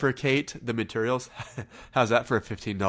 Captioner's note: chuckles